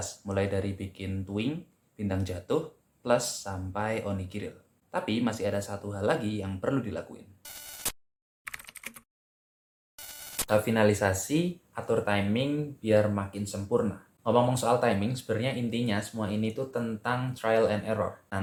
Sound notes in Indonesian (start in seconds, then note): 7.5 suara interferensi; 8.4 suara mengetik; 10.0 suara interferensi